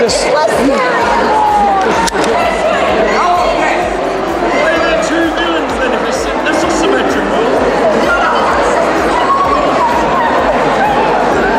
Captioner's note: crowd noise